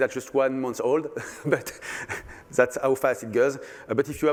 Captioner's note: laughter